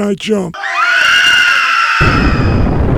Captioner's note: screams